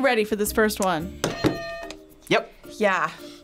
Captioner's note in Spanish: suena la campana